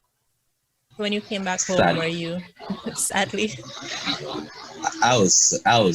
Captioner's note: laughs